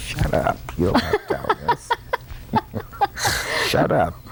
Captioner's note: laughter